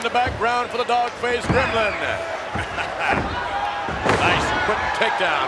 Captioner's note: chuckles